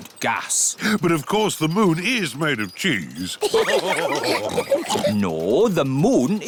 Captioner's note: all laugh